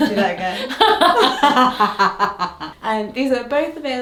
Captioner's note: both laughing